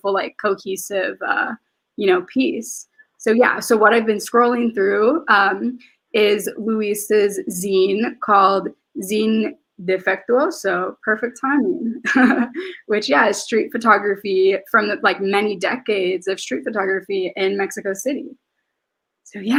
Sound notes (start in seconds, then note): 12.0 laughs